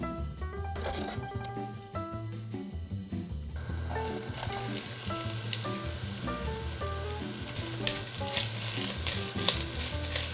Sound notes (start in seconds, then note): 3.6 sauteing